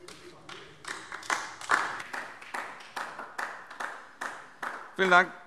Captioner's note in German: Beifall DIE LINKE